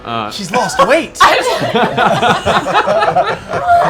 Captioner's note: laughter